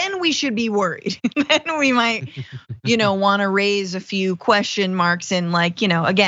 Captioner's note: laugh